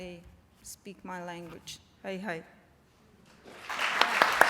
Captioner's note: non-english speech; applause